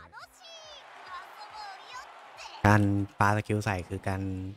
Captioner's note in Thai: ปรบมือ